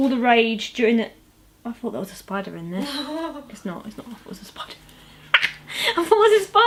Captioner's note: laughs